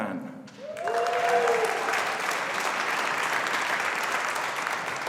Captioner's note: audience applauding